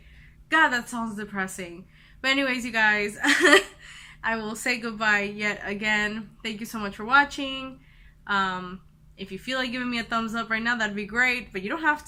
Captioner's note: laughs